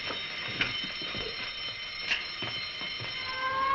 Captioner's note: ringing continues